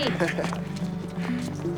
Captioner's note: chuckles